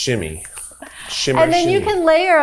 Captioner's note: chuckling